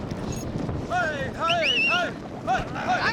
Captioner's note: whistling